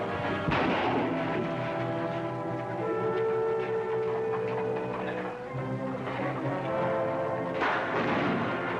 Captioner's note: gunshots